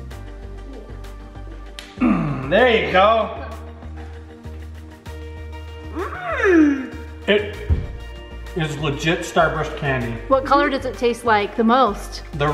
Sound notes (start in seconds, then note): 1.7 snapping; 2.0 grunt